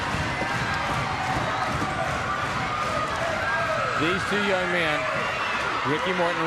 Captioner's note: crowd cheering